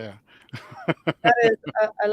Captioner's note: laughs